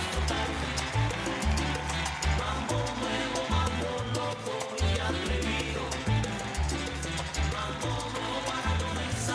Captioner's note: cheers and applause